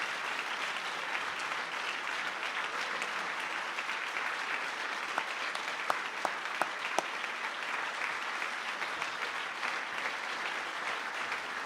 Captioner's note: applause